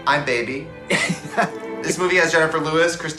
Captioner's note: woman laughs